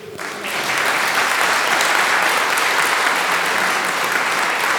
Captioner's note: applause